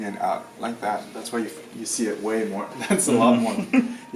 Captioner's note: laughs; laughing